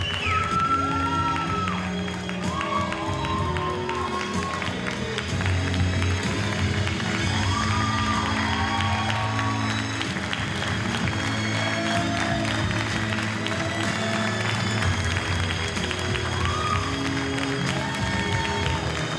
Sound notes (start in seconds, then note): 8.1 audience cheers and applauds